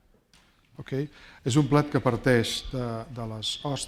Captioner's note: speaking spanish